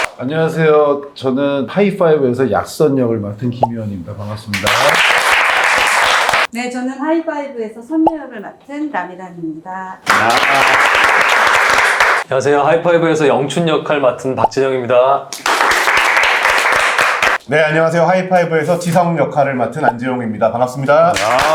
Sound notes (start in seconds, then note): 4.5 applause; 10.0 applause; 15.3 applause